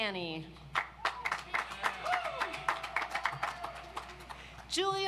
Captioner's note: audience applauds